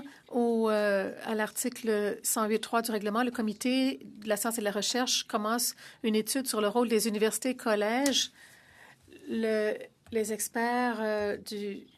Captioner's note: speaking French